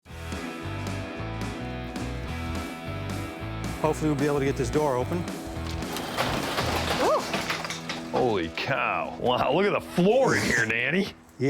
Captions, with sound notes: [rock music] Hopefully we'll be able to get this door open. [garage door opening] Ooh! Holy cow. Wow, look at the floor in here, Dani.